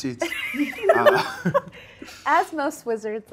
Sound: everybody laughs

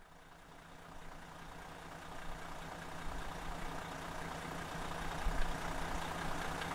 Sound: coach engine idling

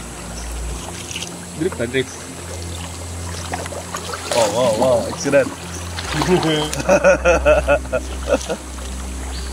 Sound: laughs

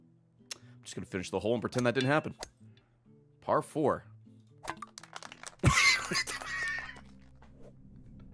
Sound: laughs

